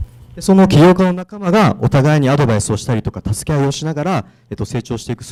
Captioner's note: speaking foreign language